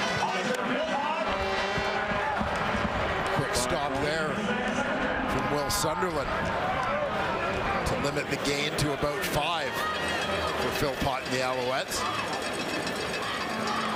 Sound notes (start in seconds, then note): 3.7 crowd Noise